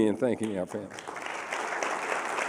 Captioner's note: applause